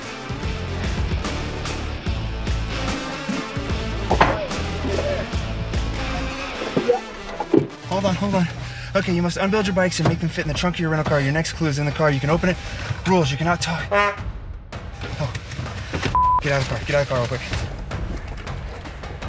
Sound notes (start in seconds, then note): 0.0 upbeat music; 13.8 horn beeps; 16.1 beeps